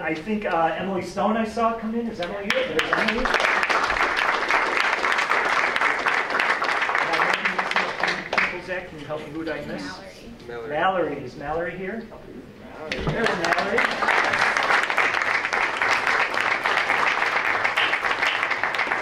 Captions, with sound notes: And I think Emily Stone I saw come in, is Emily here, there's Emily. (applause) Am I missing any people Zach? Can you help me, who'd I miss? >>Mallory. >>Mallory, is Mallory here? There's Mallory. (applause)